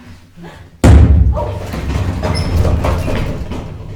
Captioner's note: staff banging